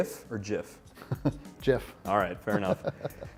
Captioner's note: laughs